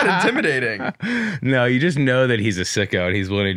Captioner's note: laughs